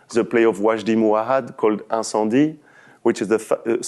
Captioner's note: french